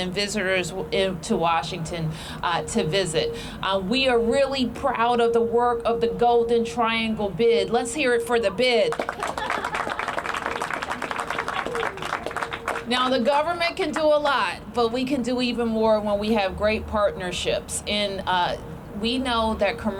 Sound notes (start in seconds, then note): 8.9 applause